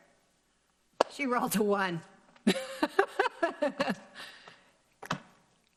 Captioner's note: laughs